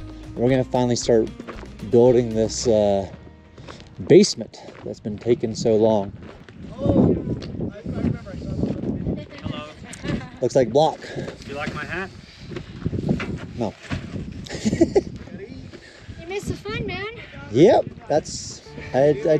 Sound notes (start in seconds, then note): 6.1 wind howling; 14.4 chuckling